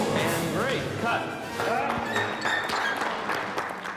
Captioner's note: applause